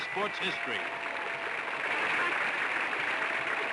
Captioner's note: applause